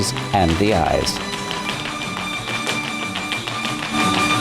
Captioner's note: tap dancing; mariachi music